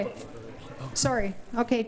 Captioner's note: murmurs